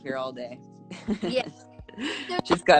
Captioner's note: laughs